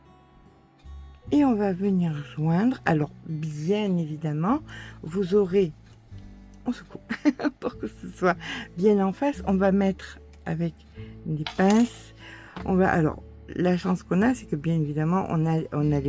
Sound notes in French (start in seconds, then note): 7.0 rires